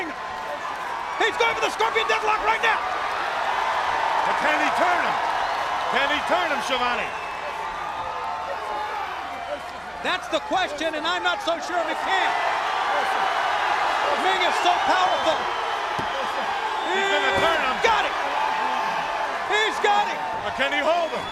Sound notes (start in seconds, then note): 3.4 crowd cheering; 8.1 crowd chatter